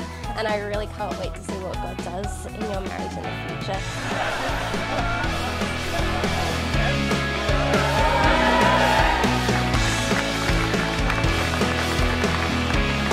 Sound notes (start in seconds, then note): 3.8 everybody laughing; 7.2 everybody cheering; 9.3 audience applauding